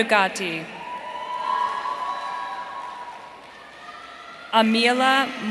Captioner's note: audience cheering